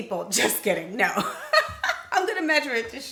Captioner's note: laughs